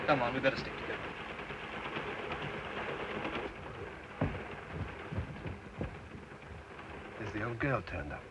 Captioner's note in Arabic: صوت خشخشة القطار